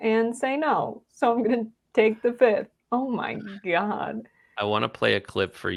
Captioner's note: laugh